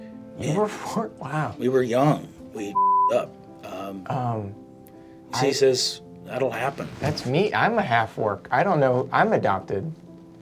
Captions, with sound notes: - You were... Wow. - We were young. We (beeping) up. - I... - You see he says, that'll happen. - That's me, I'm a half-orc. I don't know, I'm adopted.